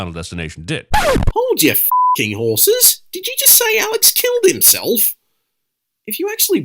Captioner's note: record scratch